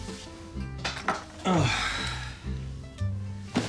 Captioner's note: sighing deeply